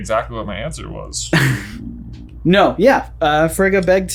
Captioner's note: laughs